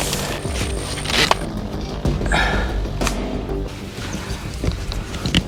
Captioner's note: snapping trail cam latches; crisp plastic latches snapping as the camera is adjusted